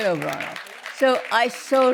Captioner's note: applause